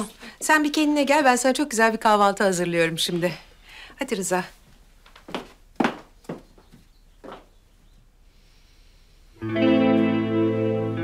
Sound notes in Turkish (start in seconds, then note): 4.6 Ayak sesi; 9.4 Müzik - Duygusal